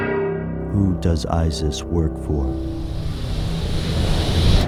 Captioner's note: voiceover